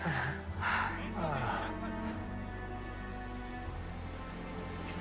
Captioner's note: voices in the distance